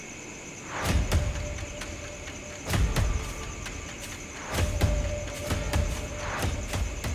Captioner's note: crickets chirp; dramatic music